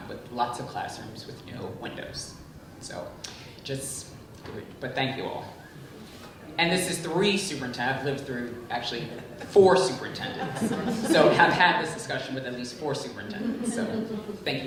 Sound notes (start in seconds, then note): 10.7 group chuckling